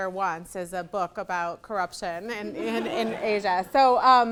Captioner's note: audience laughing